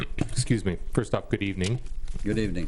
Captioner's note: clears throat